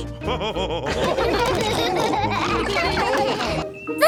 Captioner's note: all laughing